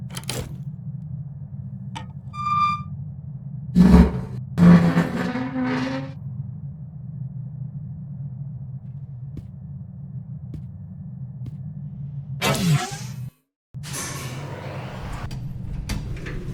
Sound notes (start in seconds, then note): 1.9 rusty door squeaking; 3.8 apparatus sliding